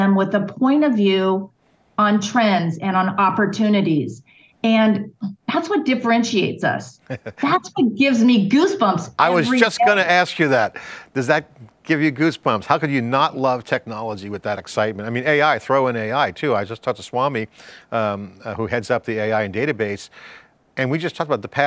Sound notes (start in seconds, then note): 7.0 laughs